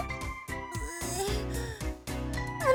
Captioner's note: groan